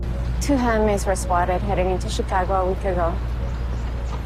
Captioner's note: voiceover